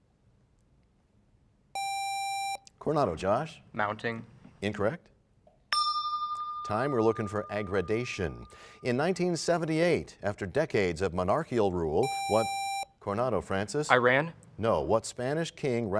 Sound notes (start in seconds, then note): 5.7 bell rings, time expires